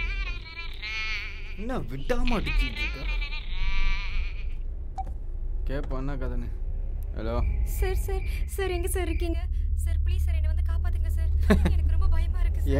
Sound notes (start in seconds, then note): 4.6 phone touch sound